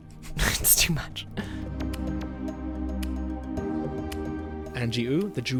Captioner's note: voiceover